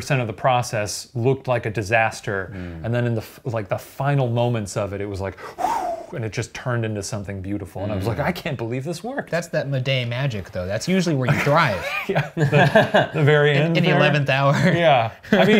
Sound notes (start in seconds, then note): 5.6 whooshes; 11.3 chuckles